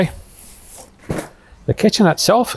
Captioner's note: bag thumping